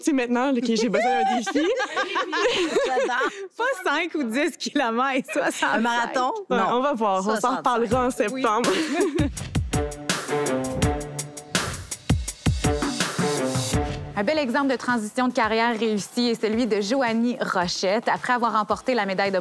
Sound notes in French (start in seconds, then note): 0.9 rires